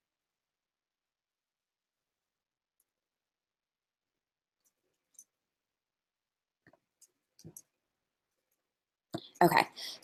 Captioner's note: silence